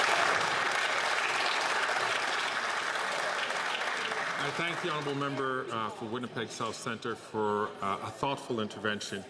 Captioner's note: some Applause